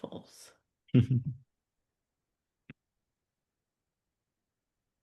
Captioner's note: laughs